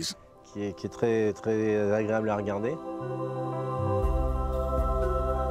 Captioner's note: speaking in foreign language; gentle music